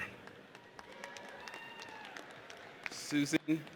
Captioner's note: audience applauds